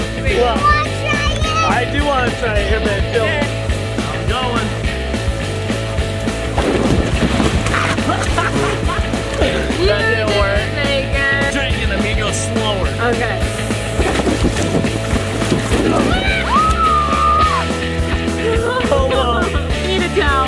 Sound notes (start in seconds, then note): 6.8 laughs; 7.5 splashes; 14.6 splashes; 17.8 screams